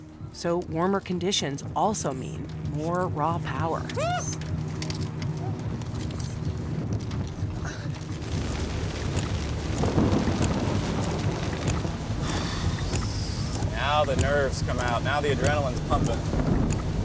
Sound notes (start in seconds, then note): 7.6 rain falling steadily, thunder rumbling; 12.2 exhales